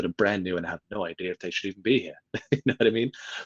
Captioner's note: laughs